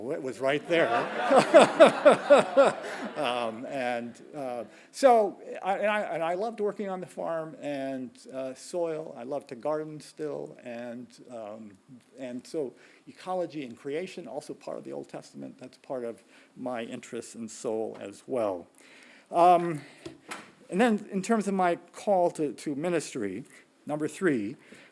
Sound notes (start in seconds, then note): 0.8 laughing; 2.7 audience laughing